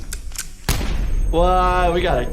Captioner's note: gun clicks; bullet fires